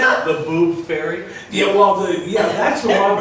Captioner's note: voiceover